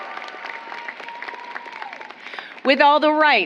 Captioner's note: applause